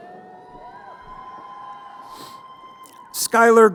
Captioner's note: crowd cheering